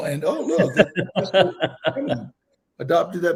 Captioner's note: Donal laughing